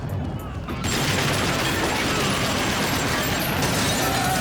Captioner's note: guns fire